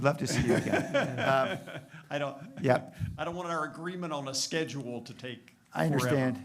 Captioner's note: laughter